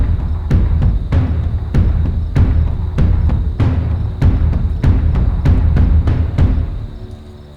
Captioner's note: dramatic music; crickets chirp